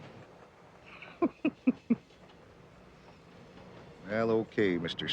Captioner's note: Jim laughing